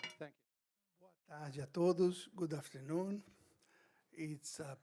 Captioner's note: speaks in foreign language